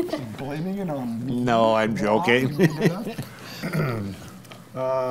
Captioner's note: laughs; laughs